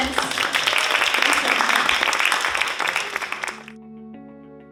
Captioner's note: audience applauding; bright music